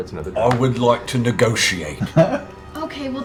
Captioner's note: Grog voice